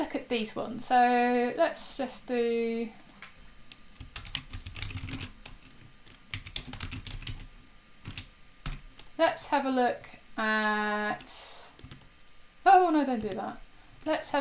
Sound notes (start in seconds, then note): 4.3 keys tapping